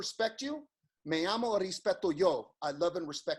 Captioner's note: speaks in foreign language